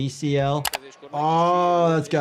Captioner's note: keyboard clacking